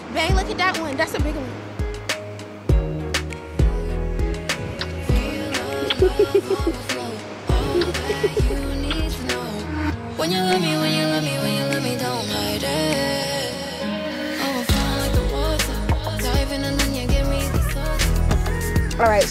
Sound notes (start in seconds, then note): 2.1 chill R&B music; 5.9 giggling